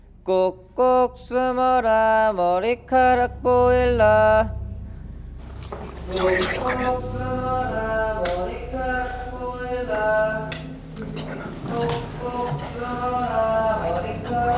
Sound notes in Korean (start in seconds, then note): 3.8 노랫소리가 울려 퍼진다; 9.3 스위치가 '탁' 꺼지는 소리